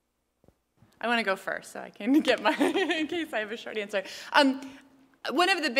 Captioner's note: laugh